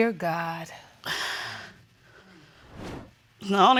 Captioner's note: sighs